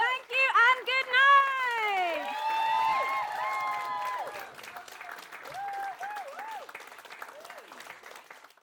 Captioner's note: cheering